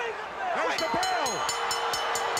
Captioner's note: bell ringing; crowd cheering